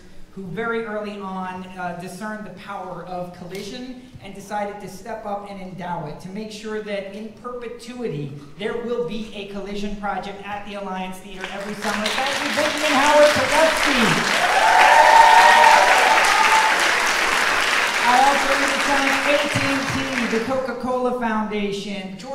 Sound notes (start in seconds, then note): 12.4 audience clapping; 15.6 audience cheering